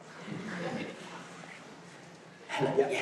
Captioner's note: audience chuckles